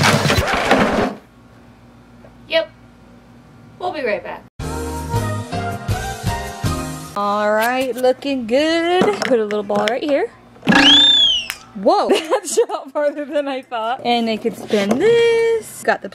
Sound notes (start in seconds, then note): 0.0 record scratches; 4.6 happy flute music; 10.7 whistle blows